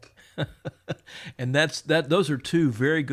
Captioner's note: chuckles